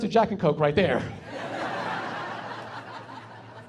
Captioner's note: laughing